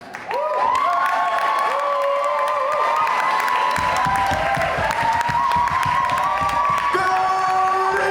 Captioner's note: audience cheering